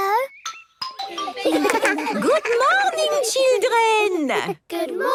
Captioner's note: laughter